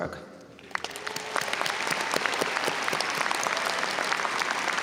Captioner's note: audience applauding